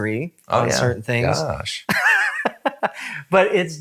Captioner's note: laughs